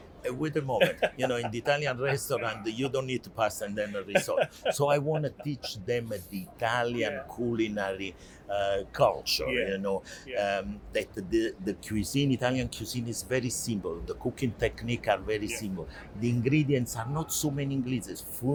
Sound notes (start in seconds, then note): 4.0 laughs